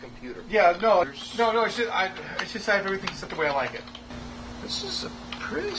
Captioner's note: keys clicking